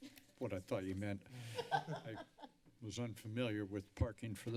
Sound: laughter

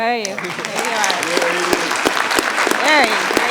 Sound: audience applauding

